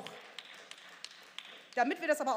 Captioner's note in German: Beifall